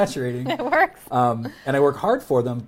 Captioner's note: laughs